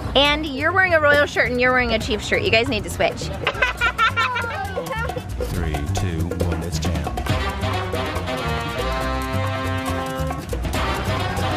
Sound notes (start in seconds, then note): 3.3 laughing; 7.0 upbeat music